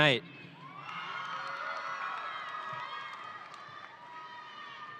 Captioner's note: audience cheering